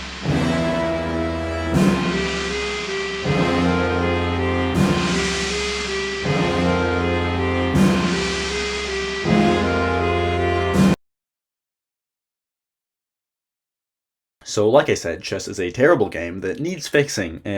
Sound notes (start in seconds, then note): 11.1 stunned silence